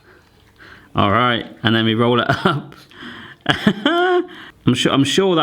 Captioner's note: laughing